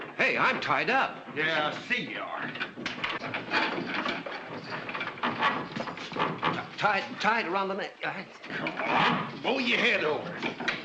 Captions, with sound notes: - Hey, I'm tied up. - Yeah. [ RATTLING SOUND ] Tie around the neck. Come on, move your head over.